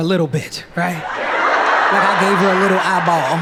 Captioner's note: audience laughing